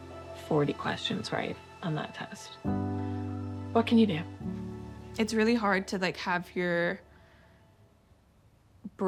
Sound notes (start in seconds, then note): 3.7 sighs